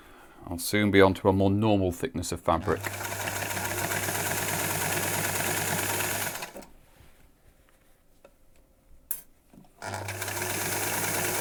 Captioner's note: sewing machine running